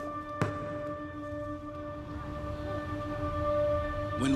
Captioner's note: inspirational music; ball bounces